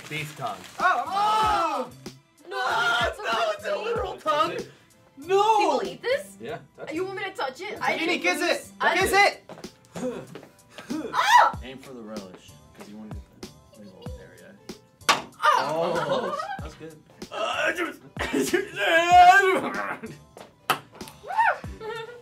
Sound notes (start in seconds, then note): 1.1 squealing; 11.0 screaming; 18.2 grumbling; 20.0 ball bouncing